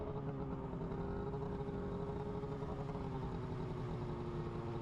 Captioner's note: engine humming